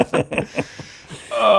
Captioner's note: laughing